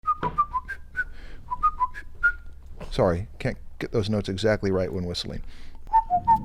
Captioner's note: whistling